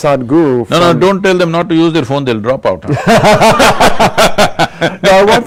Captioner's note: laughter